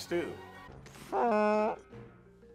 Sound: fart noise

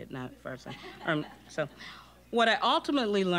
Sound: audience chuckling

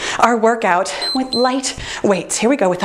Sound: timer beeps

